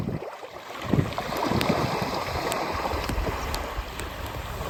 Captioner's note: waves splashing on the beach and a fire crackling